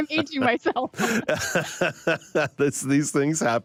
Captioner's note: laughter